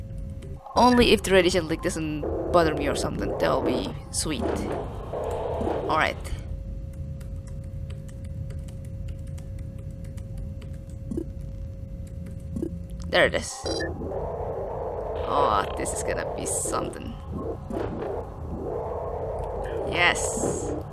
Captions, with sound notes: Only if the radiation leak doesn't bother me or something, that would be sweet. Alright. *intense typing sound* *game sound* There it is. Oh, this is gonna be somethin'. Yes.